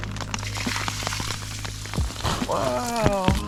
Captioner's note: splosh